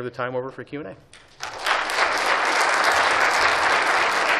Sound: applause

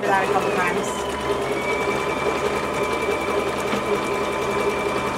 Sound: machine buzzing

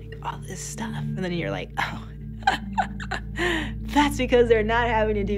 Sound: laughs

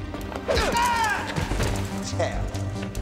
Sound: guard yelling

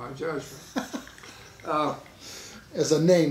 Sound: laughing

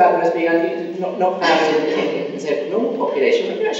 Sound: coughing masks speaker

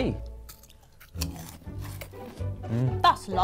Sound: crunching

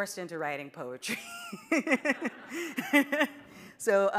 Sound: audience laughing

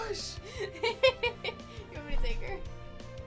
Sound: laughs

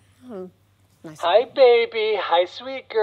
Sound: baby talk over audio monitor

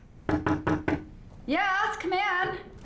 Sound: knock on door

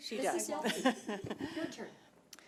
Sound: people laughing

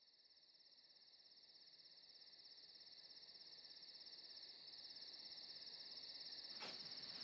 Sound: night ambience

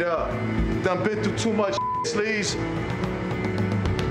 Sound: beep

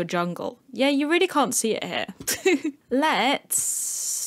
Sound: laugh

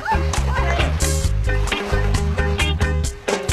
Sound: all chattering; upbeat keyboard music continues

